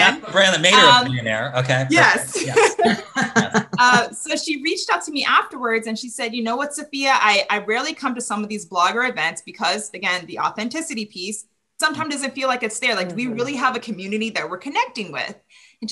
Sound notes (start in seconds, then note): 2.7 laughs